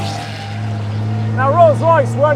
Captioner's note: car engine roaring